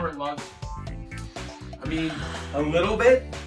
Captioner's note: inhales deeply